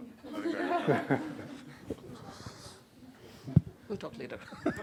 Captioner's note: laughter